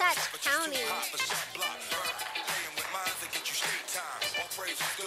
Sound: quiet applause from audience

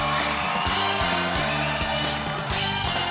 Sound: crowd cheering; upbeat music

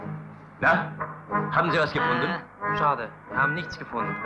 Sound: German language

